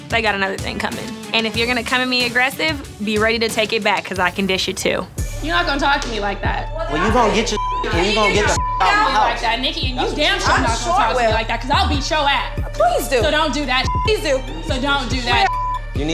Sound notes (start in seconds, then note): 7.1 beep; 13.8 beep